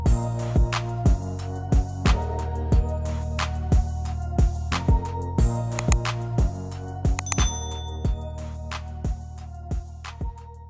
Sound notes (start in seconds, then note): 0.2 hip-hop music; 5.8 mouse button clicking; 7.2 bell dinging